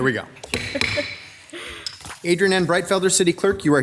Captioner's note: gavel bangs